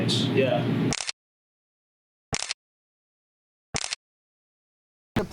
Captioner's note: camera clicks